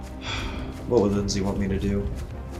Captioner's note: Trevor sighing